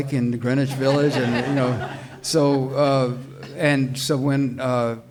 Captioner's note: audience laughs